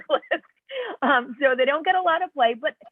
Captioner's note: laughter